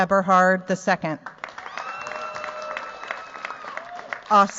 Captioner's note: cheers, applause